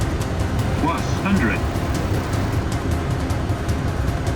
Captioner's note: electronic Voice